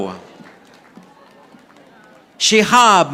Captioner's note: audience applauding